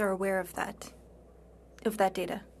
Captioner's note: speaking French